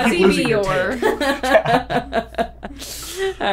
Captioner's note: laughter